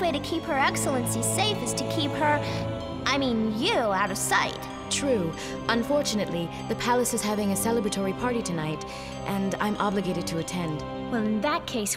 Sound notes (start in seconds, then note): none